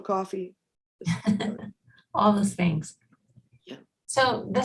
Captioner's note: laughs